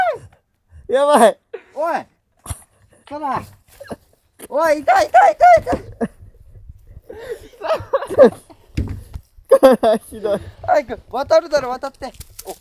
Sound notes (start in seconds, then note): 7.1 laughs